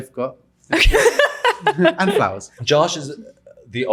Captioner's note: laughing